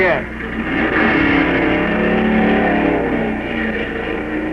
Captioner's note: engines roaring